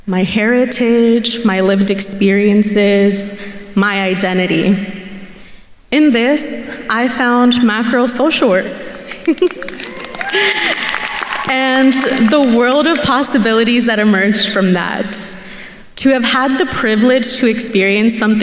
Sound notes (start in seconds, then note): 9.0 laughs; 9.2 attendees cheering and applauding